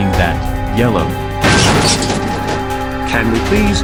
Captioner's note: metallic impact